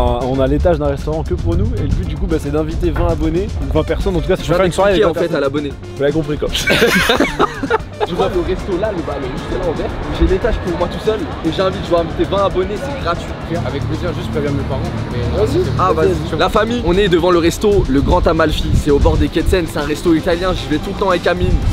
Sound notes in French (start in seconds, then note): 6.5 rires